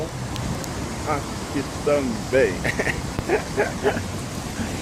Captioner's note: laugh